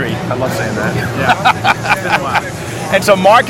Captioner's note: laughing